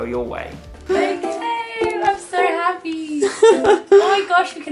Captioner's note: laughing